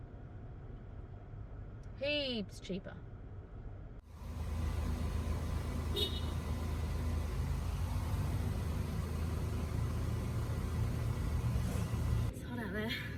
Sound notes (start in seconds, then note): 4.0 car engine and pump engine noises; 4.1 a car horn beeps